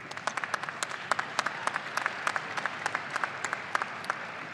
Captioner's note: audience cheering